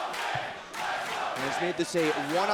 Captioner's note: crowd cheering